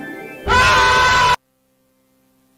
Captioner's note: wild scream